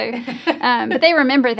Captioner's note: laughs